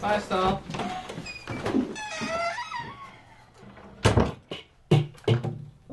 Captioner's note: door opens and slams closed